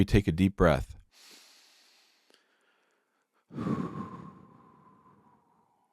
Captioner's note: breathing heavily